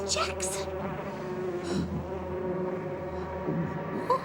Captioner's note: buzzing